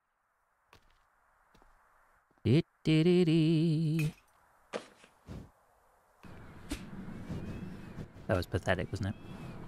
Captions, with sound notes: [humming] That was pathetic, wasn't it?